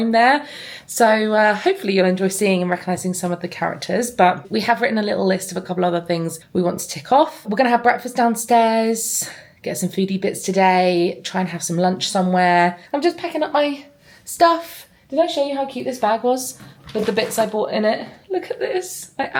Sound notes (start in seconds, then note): none